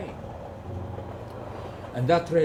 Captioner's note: train driving